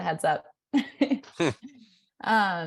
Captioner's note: laughter